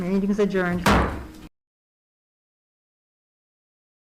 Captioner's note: gavel bangs